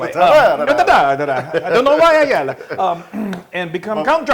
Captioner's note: laugh